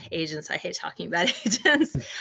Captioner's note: laughing